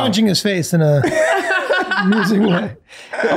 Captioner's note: everyone laughing